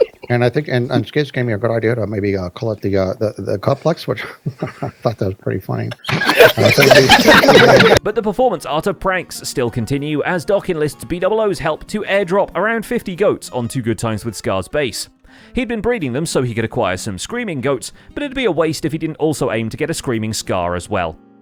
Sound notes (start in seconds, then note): 0.0 snickering; 5.9 group laughs